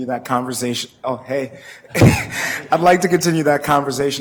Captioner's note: laughs